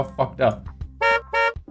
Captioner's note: honk!; honk!!